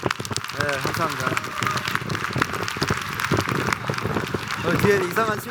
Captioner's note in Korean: 박수